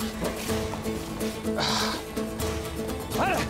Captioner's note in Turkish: Nefes sesi